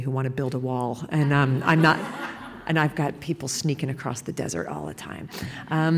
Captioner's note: laughter